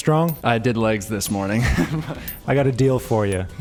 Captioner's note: laughs